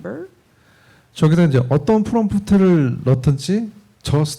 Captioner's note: speaking korean